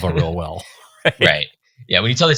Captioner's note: chuckling